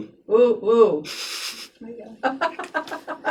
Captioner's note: laughing; chuckles under breath